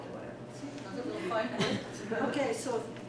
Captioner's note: laughter